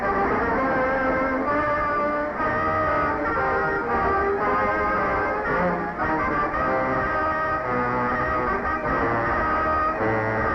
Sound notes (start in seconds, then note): none